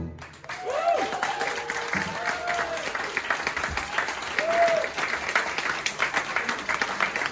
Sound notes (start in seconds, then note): 0.1 applause